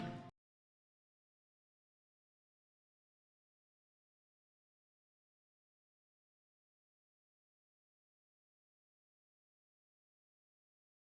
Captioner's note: upbeat music; silence